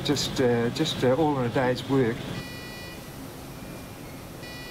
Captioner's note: chiming faintly